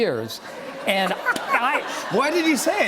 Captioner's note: laughter